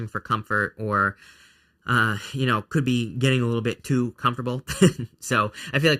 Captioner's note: laughs